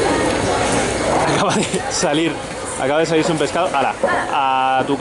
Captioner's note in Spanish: risas